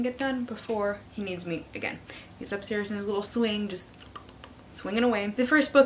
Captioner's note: pop, pop, pop, pop, pop